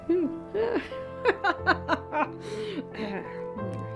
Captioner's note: laughs; reflective music